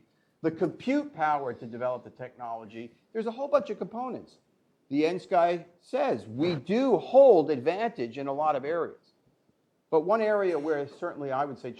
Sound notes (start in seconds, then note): none